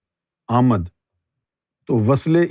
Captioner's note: in Urdu